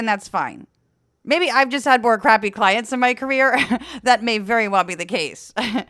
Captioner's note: laugh